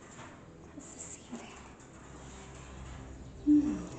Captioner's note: me whispering this